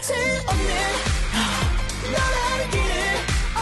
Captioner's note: gasp